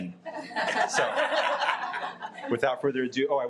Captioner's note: audience laughing